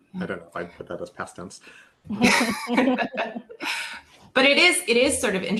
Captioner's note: laughing